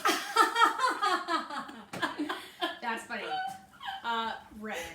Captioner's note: laughs heartily